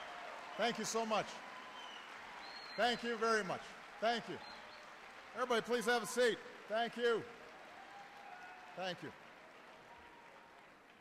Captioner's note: applause